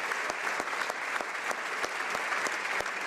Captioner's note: applause